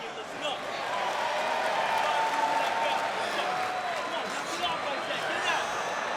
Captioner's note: audience applauds and cheers